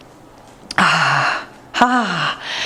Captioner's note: exhales